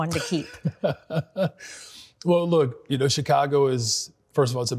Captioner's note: laughs